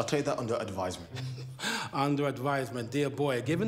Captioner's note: laughs